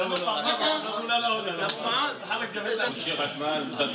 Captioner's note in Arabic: الصوت المنطوق باللغة العربية